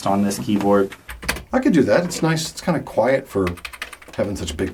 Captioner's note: clacks